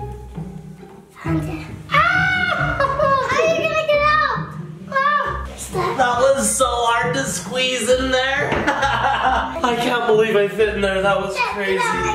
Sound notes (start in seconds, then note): 1.9 screams; 8.6 laughs